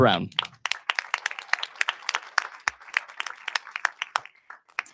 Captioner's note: audience applauding